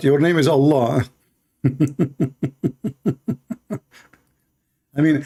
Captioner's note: Ketawa